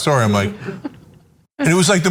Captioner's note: laugh